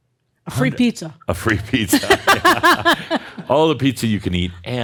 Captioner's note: they laugh